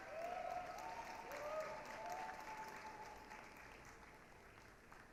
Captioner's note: applause, cheering